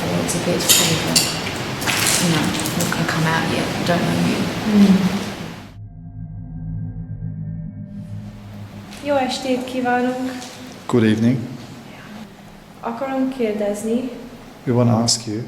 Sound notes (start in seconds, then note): 4.3 dramatic music; 8.8 speaking in foreign language; 12.5 speaking in foreign language; 15.3 speaking in foreign language